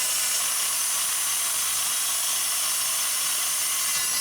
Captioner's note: saw buzzing